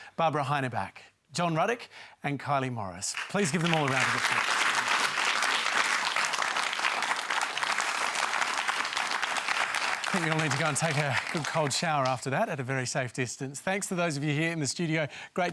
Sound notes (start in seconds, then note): 5.1 applause